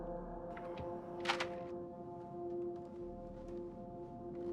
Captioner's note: lock latching